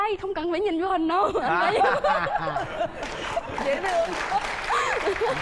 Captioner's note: laughing and applause